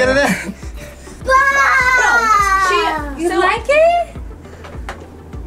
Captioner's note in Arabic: بصوت عميق; يصرخ في التسلية